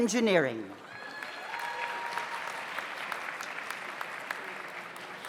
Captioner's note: audience applauds